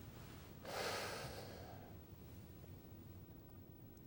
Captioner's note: none